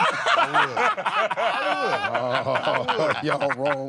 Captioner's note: laughter